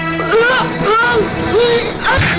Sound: groans

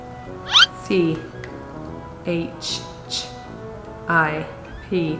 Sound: mutters

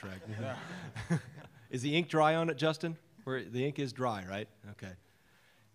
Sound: laughter

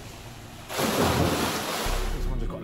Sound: loud splash

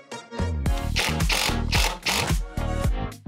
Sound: drill whirring; upbeat music

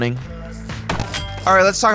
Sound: ding

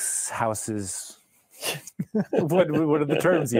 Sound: chuckling

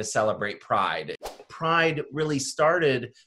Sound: graphic whooshes

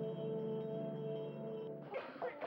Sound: coughing

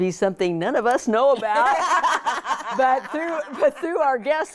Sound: laughing

